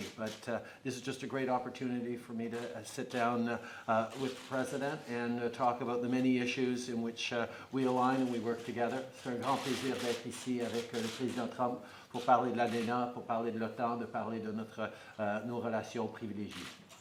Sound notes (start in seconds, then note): 10.4 speaks in French